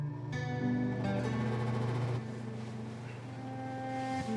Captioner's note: somber guitar music; AC humming